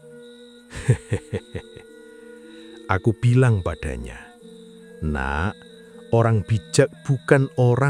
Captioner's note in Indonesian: tertawa